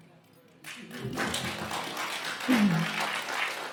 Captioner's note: applause